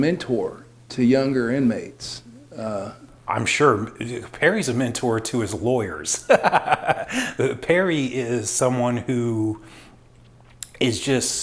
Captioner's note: laugh